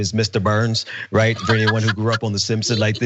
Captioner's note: laugh